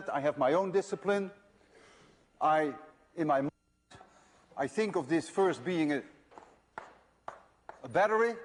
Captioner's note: silence in audio